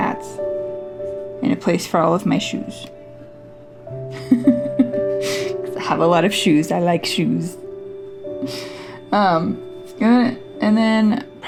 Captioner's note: laugh